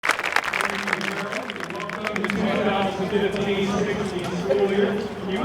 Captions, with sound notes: (Applause) Thank you Harold, Welcome to the 2015-2016 School year.